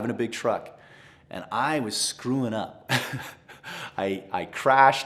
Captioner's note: laughs